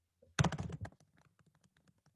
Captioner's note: typing